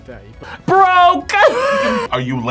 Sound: laughs

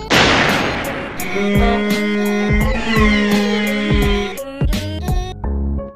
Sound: Painful Morshu Noises

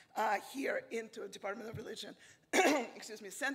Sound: clearing throat

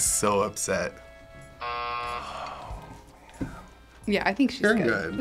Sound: buzzer

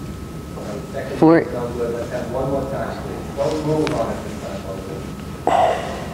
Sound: distant overlapping chatter

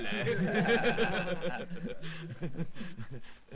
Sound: laughing

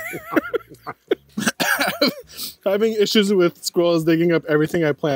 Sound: coughs

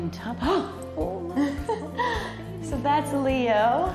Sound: gasps

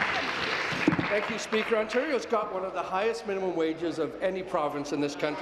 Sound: applause

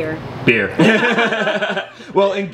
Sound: laughing

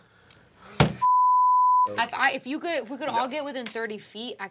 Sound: beep

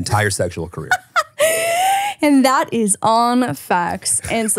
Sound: laughing

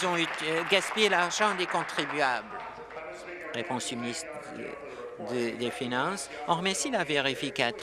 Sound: applause

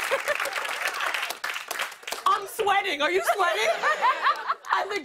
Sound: laughs; laughter

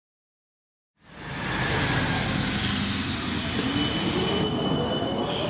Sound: traffic noise

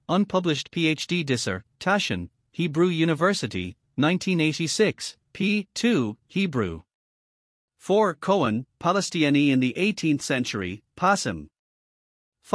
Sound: Hebrew

